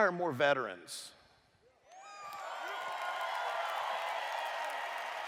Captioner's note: cheers